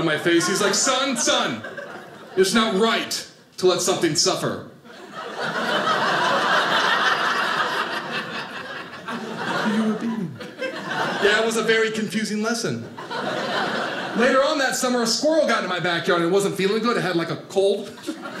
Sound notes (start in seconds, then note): 4.9 audience laughing; 17.8 audience laughing